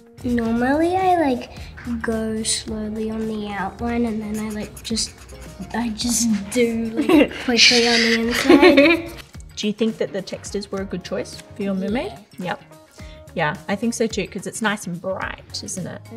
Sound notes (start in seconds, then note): 8.8 laughing